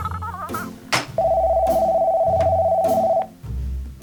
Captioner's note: phone rings